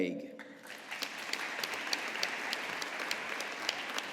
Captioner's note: audience applauding